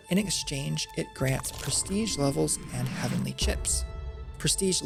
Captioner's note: ascension Sound Effect